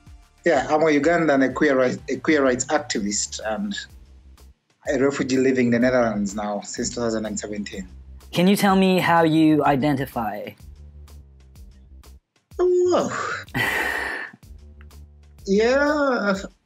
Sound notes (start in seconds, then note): 12.9 laughs